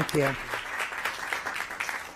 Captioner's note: applause